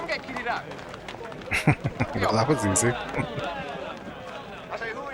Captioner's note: chuckling